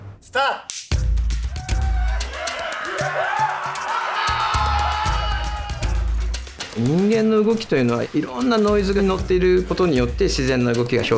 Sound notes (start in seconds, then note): 1.4 group cheers; 7.2 speaks Japanese